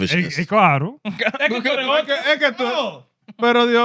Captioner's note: speaking In Foreign Language